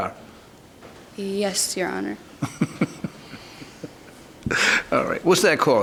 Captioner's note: Judge Caprio laughs